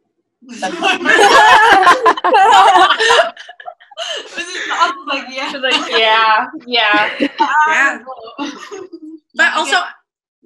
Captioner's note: laughter